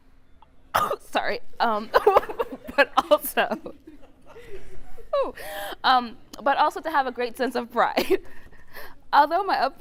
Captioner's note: laugh